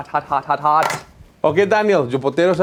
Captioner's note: tray clacks